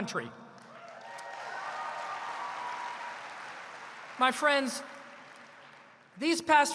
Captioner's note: applause